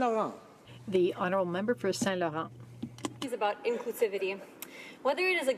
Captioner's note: speaking French